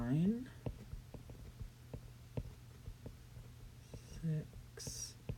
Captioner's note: writing